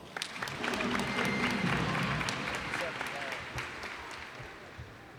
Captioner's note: cheers and applause